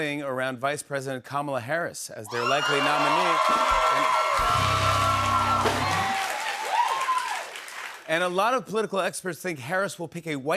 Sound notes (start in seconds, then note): 4.3 cheers and applause; 4.4 band plays chord